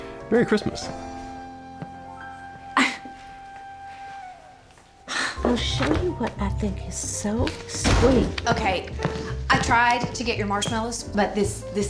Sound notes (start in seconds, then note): 2.4 scoffs; 7.7 door opens, closes